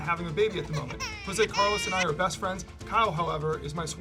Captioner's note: baby cries